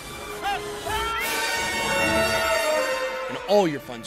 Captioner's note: screams